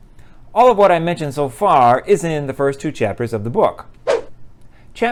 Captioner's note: swoosh